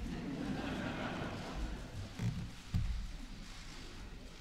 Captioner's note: laughter